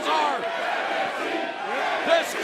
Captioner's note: fans chanting